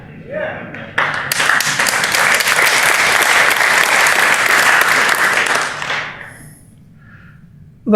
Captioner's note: applause